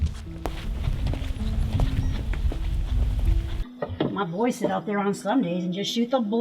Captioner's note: footsteps